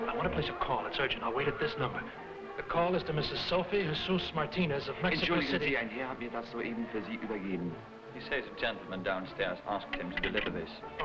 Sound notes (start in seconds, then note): 5.4 man speaking foreign language